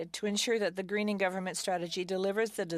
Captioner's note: speaking french